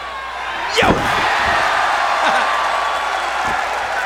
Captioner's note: crowd cheering